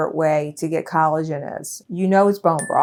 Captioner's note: text dings